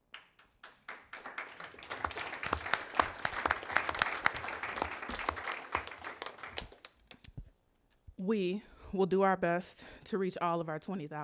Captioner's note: applause